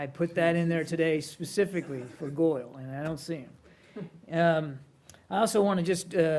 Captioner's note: laughter